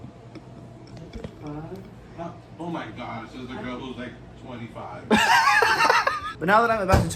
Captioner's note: laughter